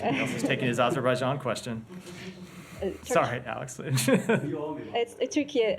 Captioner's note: laughter